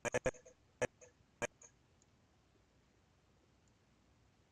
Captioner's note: audio skipping